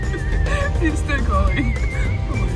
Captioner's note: laughs